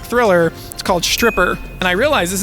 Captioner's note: movie box cover dinging